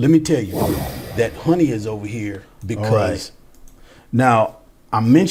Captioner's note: shimmery air whoosh